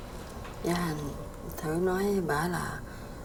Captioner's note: speaking vietnamese